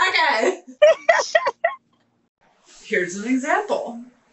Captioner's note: laughing